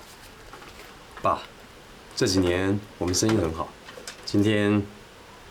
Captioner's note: Mandarin